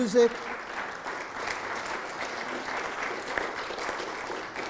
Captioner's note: audience clapping